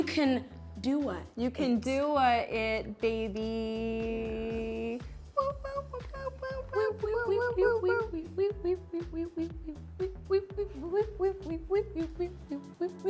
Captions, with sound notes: - You can Dua-it. - You can Dua-it, baby. (women humming)